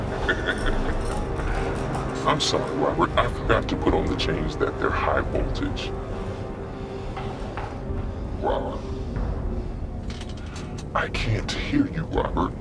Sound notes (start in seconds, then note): 0.0 laughs; 5.8 breaths heavy